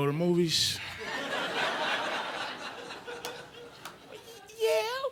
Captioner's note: audience laughing